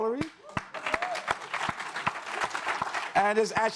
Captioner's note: audience applauds